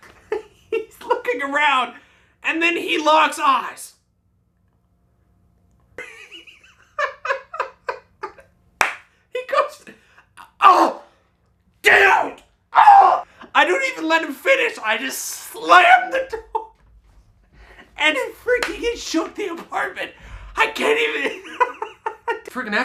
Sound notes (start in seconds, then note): 0.1 laughs; 8.8 claps; 16.4 laughs; 21.8 laughs